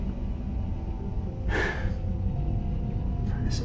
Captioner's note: tense music; Tyler sighs; tense music